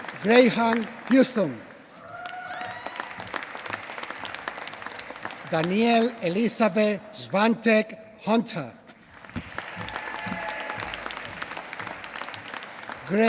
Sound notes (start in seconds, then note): 1.7 applause; 9.0 applause